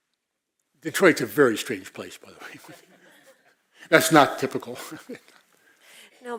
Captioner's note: laugh